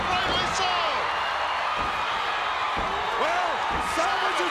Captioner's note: crowd cheering